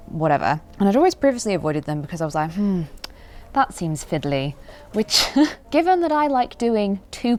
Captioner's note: chuckles